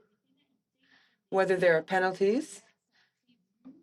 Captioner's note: speaking French